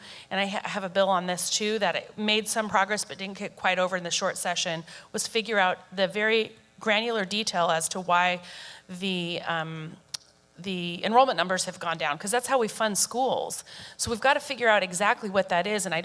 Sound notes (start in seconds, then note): none